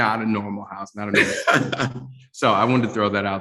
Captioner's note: laughter